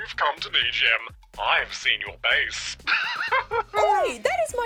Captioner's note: laughs